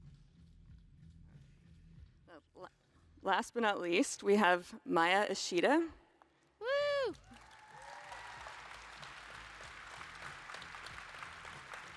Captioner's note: applause